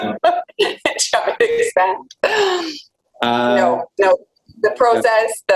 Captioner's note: laughs